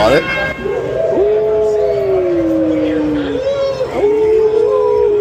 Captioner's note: howling